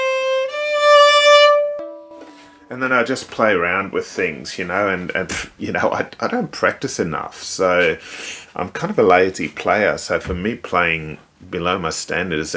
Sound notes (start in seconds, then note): 5.2 huffs